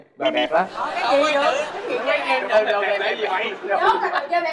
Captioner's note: laughing